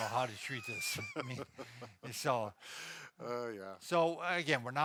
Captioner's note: laughs